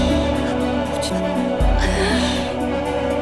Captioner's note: Asmi sobbing